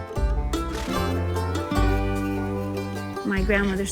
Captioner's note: horses snorting